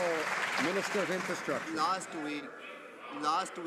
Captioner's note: some Applause